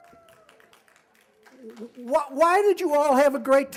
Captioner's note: applause